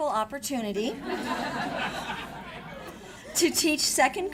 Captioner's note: audience laughs